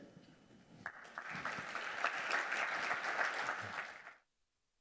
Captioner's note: audience applauding